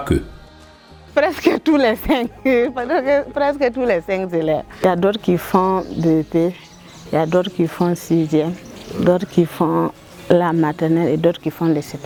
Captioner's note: laughs